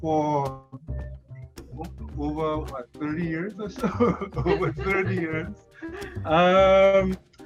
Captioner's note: laughs